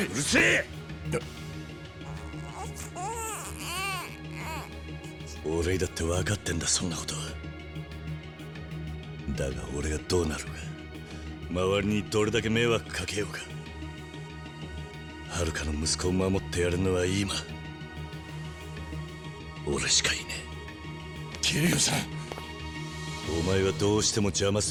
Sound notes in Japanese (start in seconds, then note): 2.0 泣き声